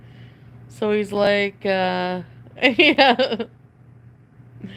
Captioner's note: laughs